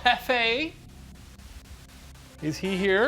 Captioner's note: room ambience